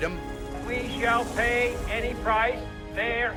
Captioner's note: helicopter engine revving